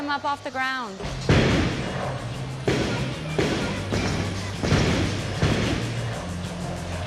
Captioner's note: balls thudding; upbeat music